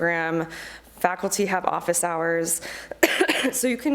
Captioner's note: coughs